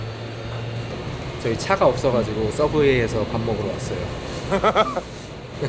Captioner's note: haha